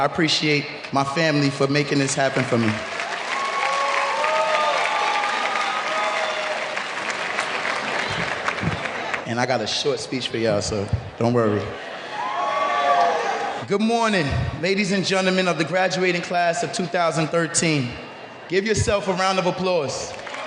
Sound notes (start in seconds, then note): 2.0 applause; 11.7 cheering